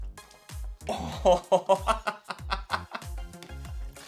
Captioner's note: laughs